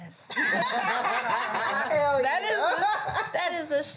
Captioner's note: all laugh out loudly